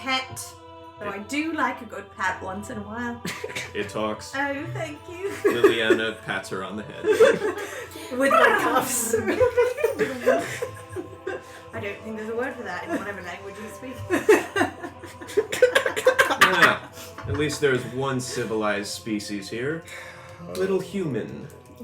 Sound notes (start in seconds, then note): 10.8 purring